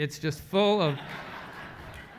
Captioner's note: laugh